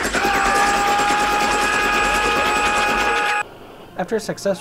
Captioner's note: repeated machine gun fire